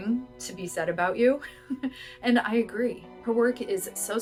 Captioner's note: laughter